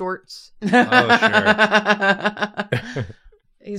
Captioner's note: laughs